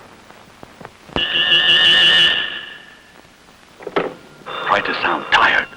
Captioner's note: dramatic phone ringing